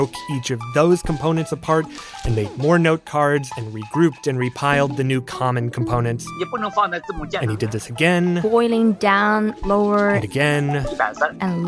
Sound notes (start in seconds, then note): 6.6 speaking Mandarin